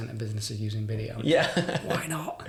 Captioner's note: laughing